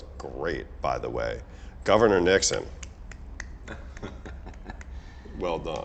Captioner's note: claps